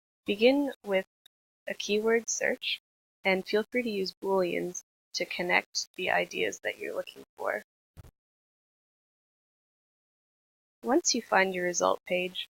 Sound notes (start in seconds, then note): 8.4 silence